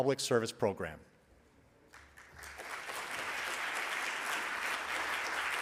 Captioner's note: audience applauds